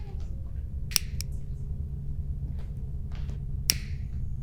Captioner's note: lighter clicking